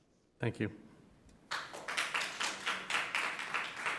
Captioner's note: members clap